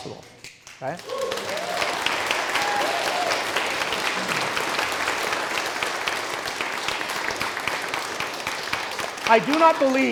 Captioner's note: cheers & clapping